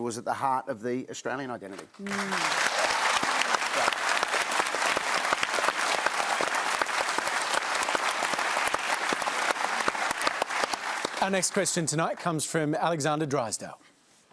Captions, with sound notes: was at the heart of the Australian identity? (APPLAUSE) Our next question tonight comes from Alexander Drysdale.